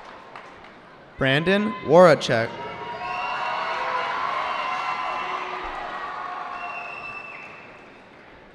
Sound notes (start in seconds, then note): 3.3 cheering